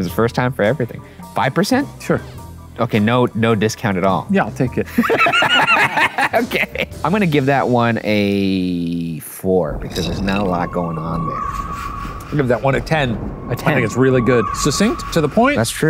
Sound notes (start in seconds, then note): 4.9 both laugh